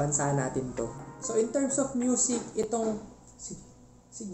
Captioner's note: tok Tok